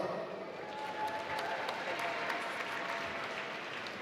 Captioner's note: applause